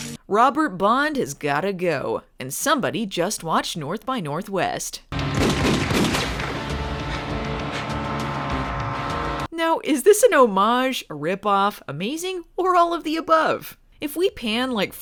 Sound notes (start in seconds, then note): 5.1 gunshots; 6.1 propellor hum